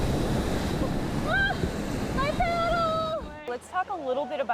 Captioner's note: screams